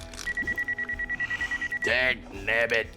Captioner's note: telephone rings